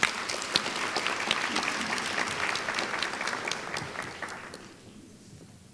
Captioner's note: applause